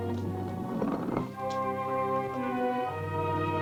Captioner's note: stone scraping; grim music continues